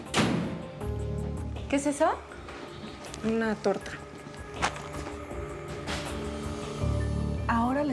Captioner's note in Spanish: Sonido de puerta al cerrar